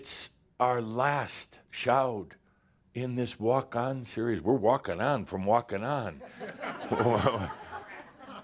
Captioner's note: laughter